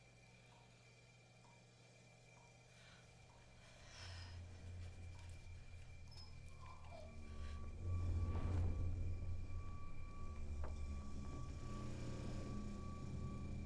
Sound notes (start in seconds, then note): 6.1 faint squeaking; 7.6 suspenseful music